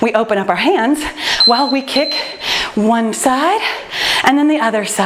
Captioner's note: timer beeps